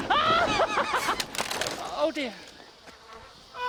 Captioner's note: snapping noise